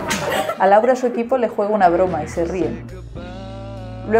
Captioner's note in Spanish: risas